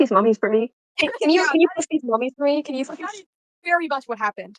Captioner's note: laughter